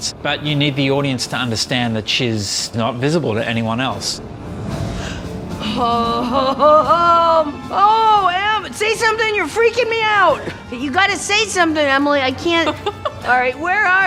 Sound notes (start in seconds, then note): 4.8 gasps; 12.5 woman laughs